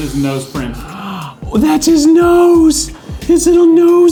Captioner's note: gasps